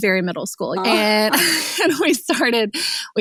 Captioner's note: laughing